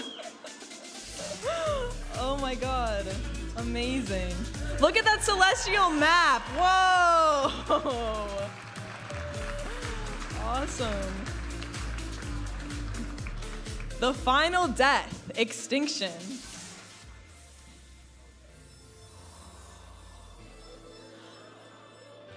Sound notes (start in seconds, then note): 0.0 laughing; 8.3 audience applauding and cheering; 12.2 vibrant music; 19.5 upbeat music